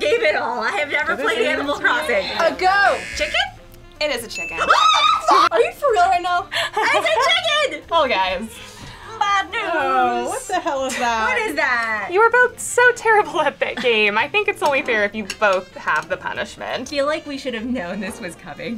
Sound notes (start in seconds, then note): 5.0 cheers